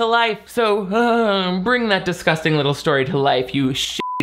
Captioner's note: vocalizes; beep